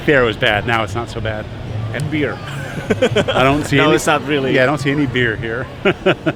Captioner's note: laught